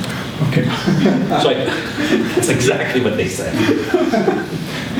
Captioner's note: laughter